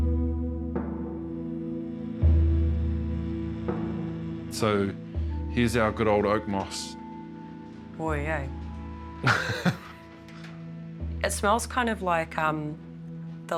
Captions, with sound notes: (MOODY MUSIC) So here's our good old oakmoss. - Boy, eh? - (LAUGHS) - It smells kind of like...